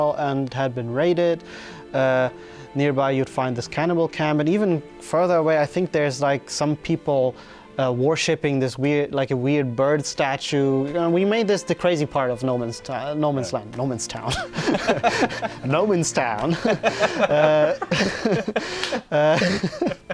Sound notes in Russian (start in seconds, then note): 14.2 смеется; 16.4 смех